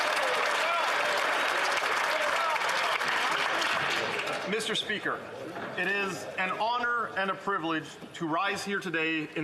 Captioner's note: some Applause